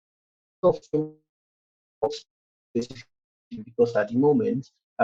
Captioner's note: distorted audio